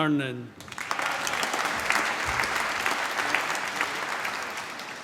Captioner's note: applause